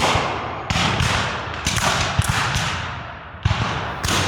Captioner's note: guns fire